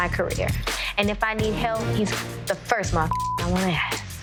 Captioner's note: beep